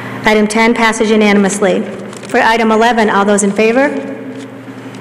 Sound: none

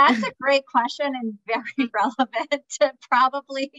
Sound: chuckles; laughs

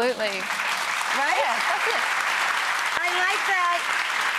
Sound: crowd clapping

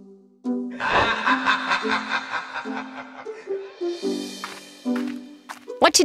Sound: vampire maniacally laughs

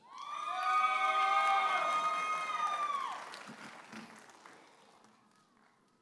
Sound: audience applauding and cheering

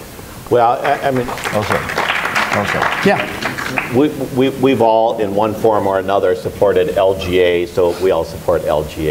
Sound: applause for Emmer

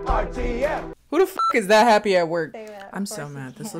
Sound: beep

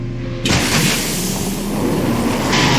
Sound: crash

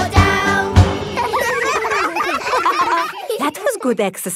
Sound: all giggling

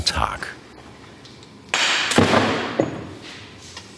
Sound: something falls to the ground

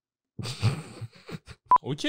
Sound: sarcastic laughter

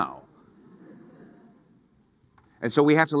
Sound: audience laughing

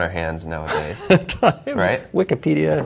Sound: laughing

